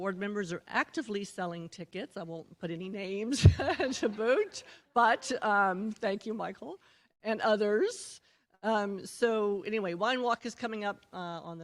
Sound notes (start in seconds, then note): 3.3 laughter